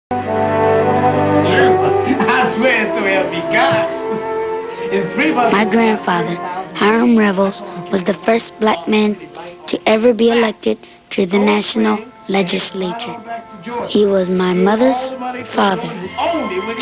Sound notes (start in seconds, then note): 2.0 energetic chatter; 10.5 chatter; 15.5 chatter